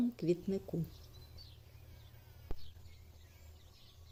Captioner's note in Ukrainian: спів птахів